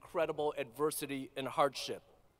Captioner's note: none